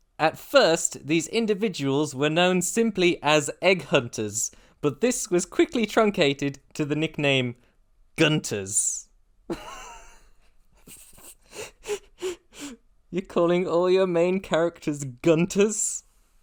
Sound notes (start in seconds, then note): 9.5 laughter